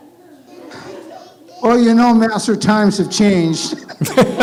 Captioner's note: laughs, audience laughs